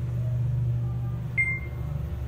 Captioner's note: beep